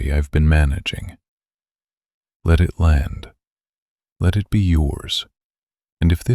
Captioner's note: pause